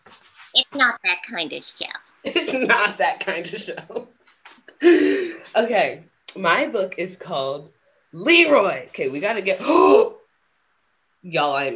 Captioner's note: gasps